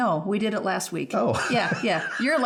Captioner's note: laughs